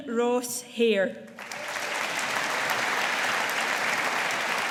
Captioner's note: audience applauding